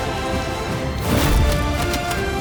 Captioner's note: hit thuds; dramatic music